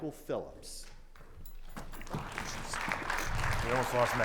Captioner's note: crowd clapping